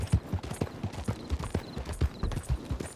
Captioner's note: none